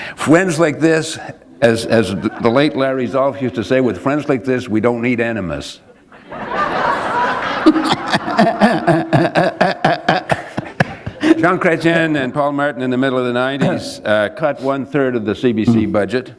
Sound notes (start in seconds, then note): 0.1 chuckle; 5.9 laughter